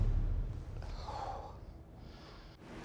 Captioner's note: exhales heavily